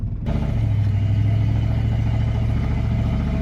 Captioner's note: truck rumbles